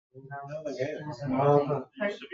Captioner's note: people chatter